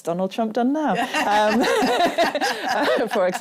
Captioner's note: laughter